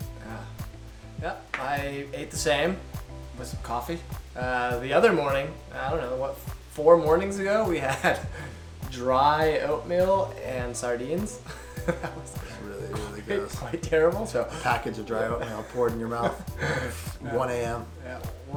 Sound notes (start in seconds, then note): 11.4 laughing; 16.1 laughing